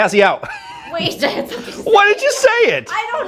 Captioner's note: laughing